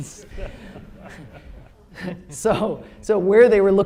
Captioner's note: laughter